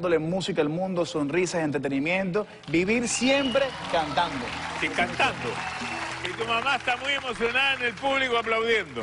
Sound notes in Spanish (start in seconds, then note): 5.4 Aplausos